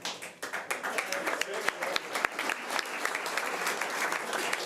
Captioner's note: audience applause